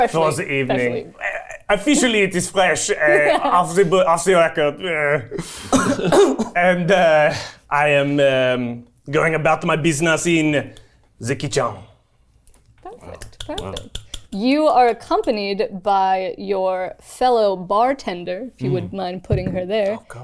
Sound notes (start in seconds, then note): 13.6 clapping